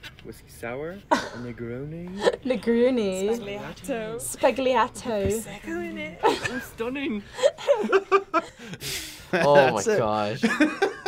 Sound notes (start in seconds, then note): 2.2 laughs; 7.3 both laugh; 9.8 laughs